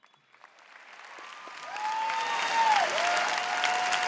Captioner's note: applause